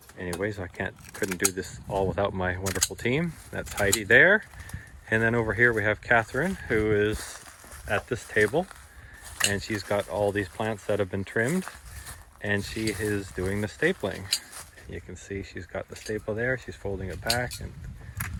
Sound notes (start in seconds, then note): 7.7 crunch!